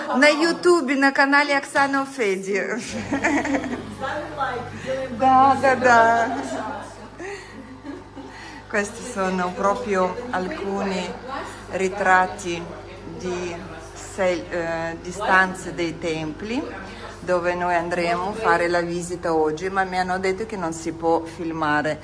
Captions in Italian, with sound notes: показывать скажи какому на YouTube на канале Аксана Fed [risate] Questi sono proprio alcuni ritratti di stanze dei templi dove noi andremo a fare la visita oggi, ma mi hanno detto che non si può filmare.